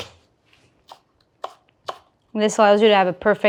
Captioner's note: knife thudding